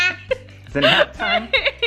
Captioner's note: laughs